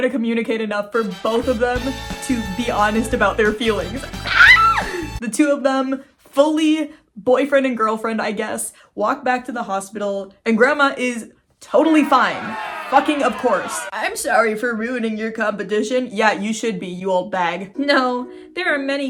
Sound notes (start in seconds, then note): 11.8 crowd booing; 17.2 happy music; 17.8 laughing